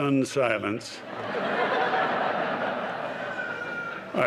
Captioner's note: laughter